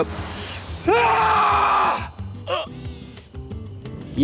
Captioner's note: screaming